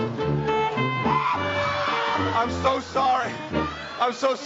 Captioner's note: screams